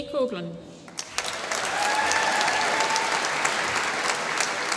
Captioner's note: applause